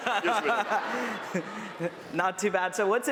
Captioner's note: chuckles